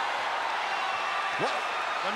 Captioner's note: applause